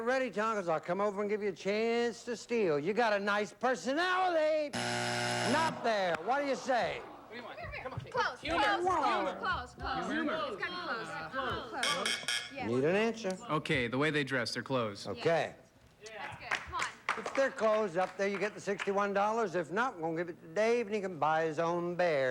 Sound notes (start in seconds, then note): 4.7 buzzer; 11.1 buzz buzz buzz